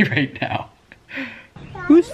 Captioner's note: laughs